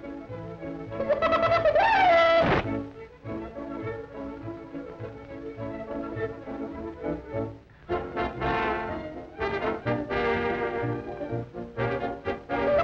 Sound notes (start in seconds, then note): 1.0 chicken clucks; 7.8 frantic orchestra music